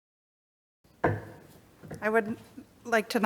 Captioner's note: gavel taps